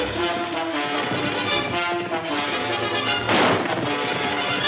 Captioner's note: gun firing